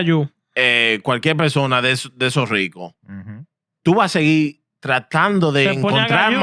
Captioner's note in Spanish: Hablando en idioma extranjero